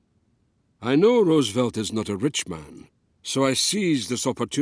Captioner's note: Voz en off